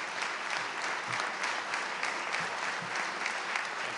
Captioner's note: applause